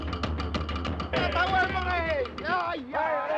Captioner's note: shouting; men yelling